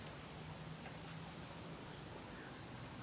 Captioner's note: none